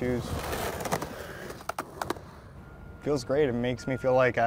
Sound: clanking of skateboard on sidewalk

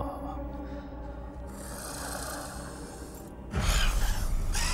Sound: Luther snarling

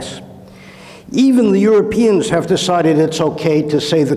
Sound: inhales

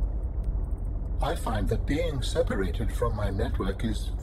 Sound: none

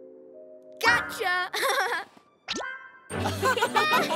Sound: A4 laughs; laughs

